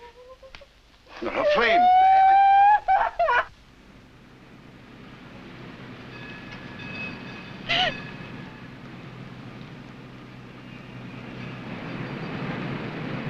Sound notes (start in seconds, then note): 1.2 Flame wailing